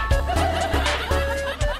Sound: clap

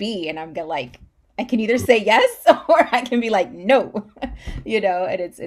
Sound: laughs

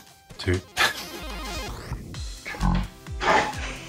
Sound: laughs

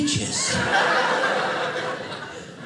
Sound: audience laughing

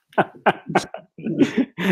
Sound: laughter

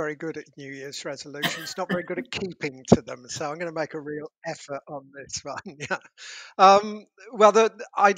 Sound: laughing

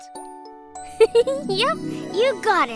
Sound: giggles

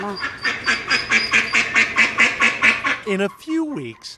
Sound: quacking

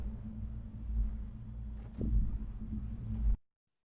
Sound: crickets chirping

